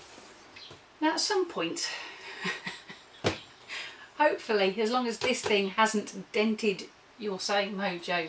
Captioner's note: chuckles